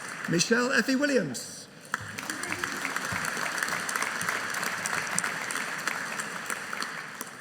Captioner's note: audience applauding